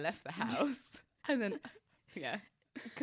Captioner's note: both laughing